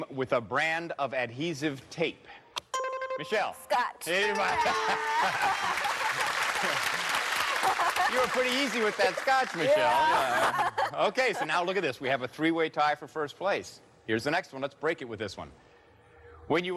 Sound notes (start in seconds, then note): 2.5 buzzer rings; 4.4 laughs; 4.9 applause; 6.0 laughs; 9.9 laughs